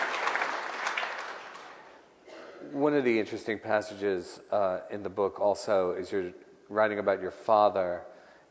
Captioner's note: applause